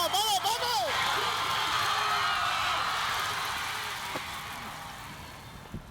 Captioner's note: announcer shouting in Spanish; cheering continues